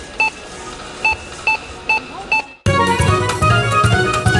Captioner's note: beeping